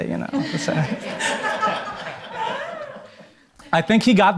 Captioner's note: audience laughing